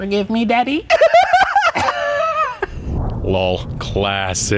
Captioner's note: both laughing